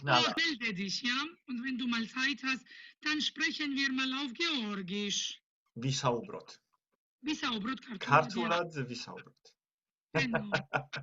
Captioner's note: in Georgian